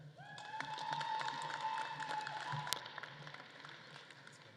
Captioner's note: audience claps and cheers